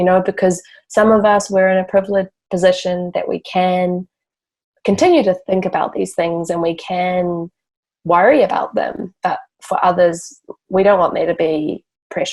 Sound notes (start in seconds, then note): none